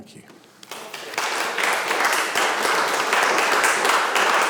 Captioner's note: audience applauding